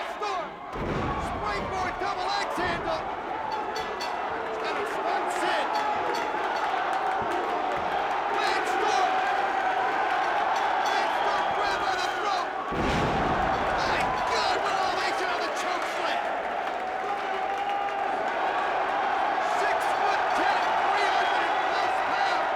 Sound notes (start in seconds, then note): 9.5 crowd cheers